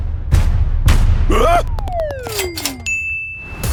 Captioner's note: gasp